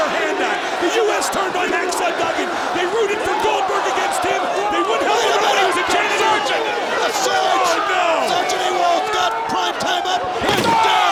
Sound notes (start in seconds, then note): 4.3 audience shouting; 4.3 commentators chattering